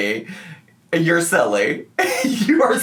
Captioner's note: laughs